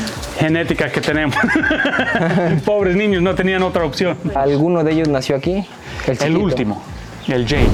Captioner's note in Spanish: risas